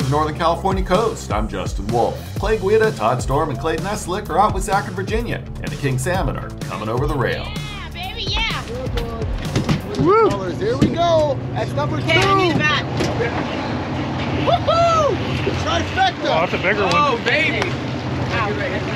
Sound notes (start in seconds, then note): 9.0 clattering; 15.1 boat engine running